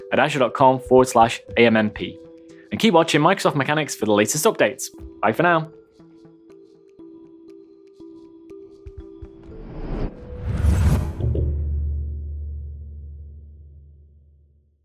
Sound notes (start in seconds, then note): 9.4 dramatic whooshing